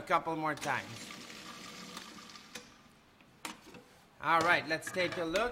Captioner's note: blender whirring